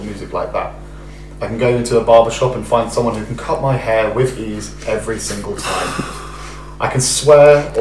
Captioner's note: sighs